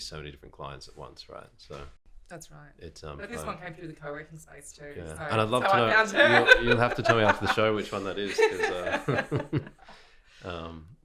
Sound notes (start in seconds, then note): 5.9 laughing